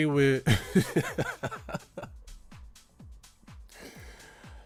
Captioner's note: Laughter; 笑聲